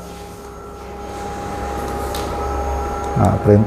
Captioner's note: printer machine noise